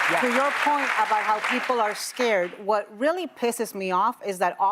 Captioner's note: applause